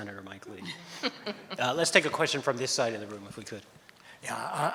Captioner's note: laughs